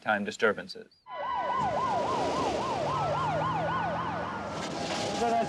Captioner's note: sirens blaring